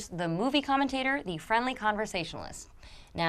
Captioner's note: none